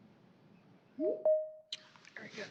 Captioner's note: computer chiming